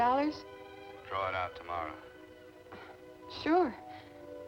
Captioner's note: on telephone